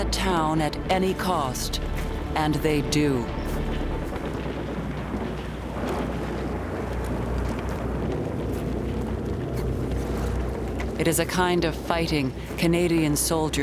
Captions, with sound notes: AT ANY COST, AND THEY DO. [gunfire] IT IS A KIND OF FIGHTING CANADIAN SOLDIERS